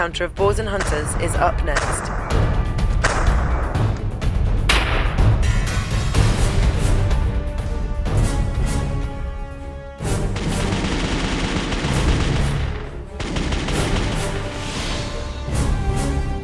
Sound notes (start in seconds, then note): 2.5 intense music; 9.9 gunshots